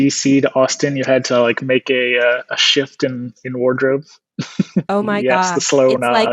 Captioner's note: laughs